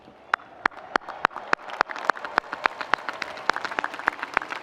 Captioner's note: audience applauding